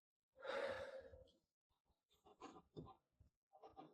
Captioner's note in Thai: เสียงถอนหายใจ